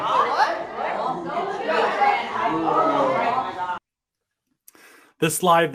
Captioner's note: students chatter indistinctly